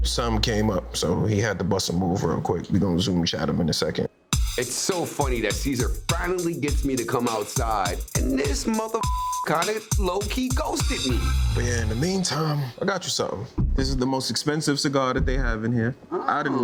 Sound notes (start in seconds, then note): 8.8 beeps